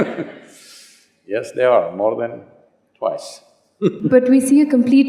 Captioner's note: laughs; laughs